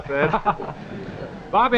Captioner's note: audience laughing